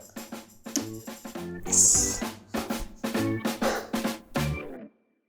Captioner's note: wooden block clunks